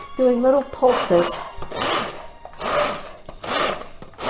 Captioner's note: whirs